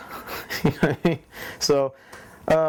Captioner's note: chuckling